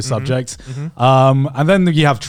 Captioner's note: affirmative murmuring